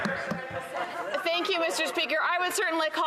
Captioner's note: some Applause